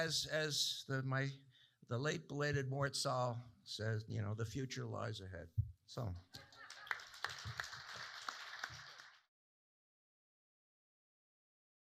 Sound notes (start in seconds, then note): 6.3 audience laughing and clapping